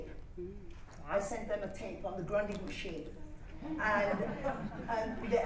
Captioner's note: laughter